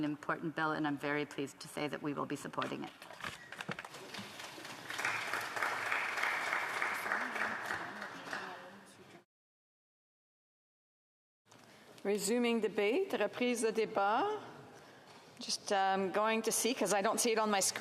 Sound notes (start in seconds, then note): 7.8 some Applause